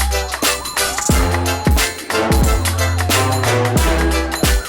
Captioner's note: riders screaming